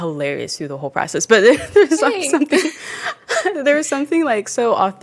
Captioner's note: laughs